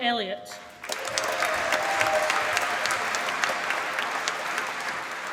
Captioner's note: applause